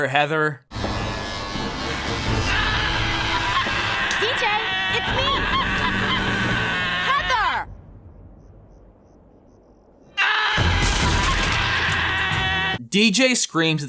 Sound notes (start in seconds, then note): 3.9 DJ screams